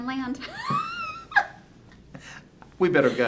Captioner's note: laughing